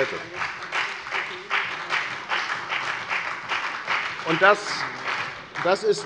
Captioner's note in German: Beifall bei der FDP und bei Abgeordneten der SPD